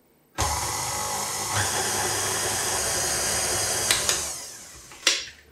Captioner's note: machine whirrin